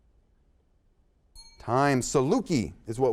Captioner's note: bell sounds